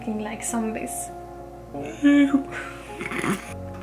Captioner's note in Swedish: Gäsp